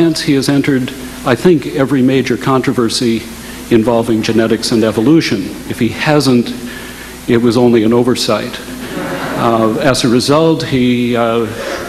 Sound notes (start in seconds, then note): 8.8 audience laughing